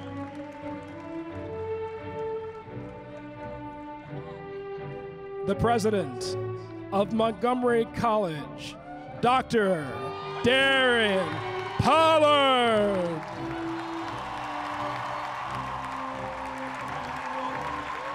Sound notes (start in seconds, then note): 0.0 applause; 10.2 applause